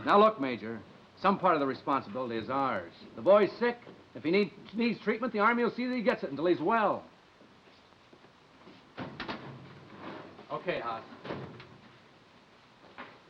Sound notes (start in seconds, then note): none